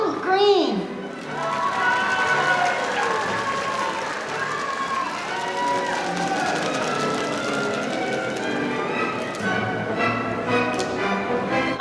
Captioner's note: applause